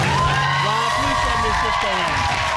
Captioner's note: audience cheers